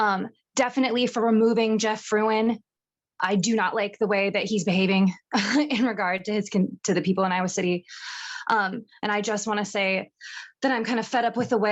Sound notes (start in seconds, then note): 5.3 laughter